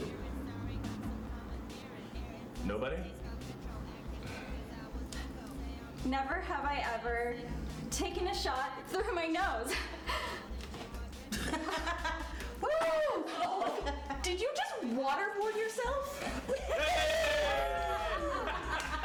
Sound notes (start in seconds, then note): 11.2 laughter; 12.4 crowd Cheers; 16.4 crowd Cheers Again